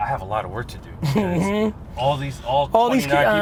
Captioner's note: laughs